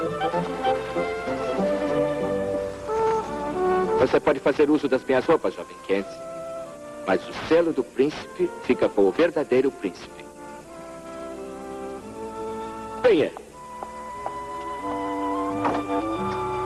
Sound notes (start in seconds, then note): none